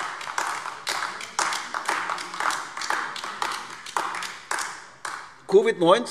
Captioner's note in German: Beifall AfD